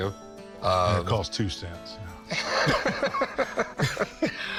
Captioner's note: Rick laughs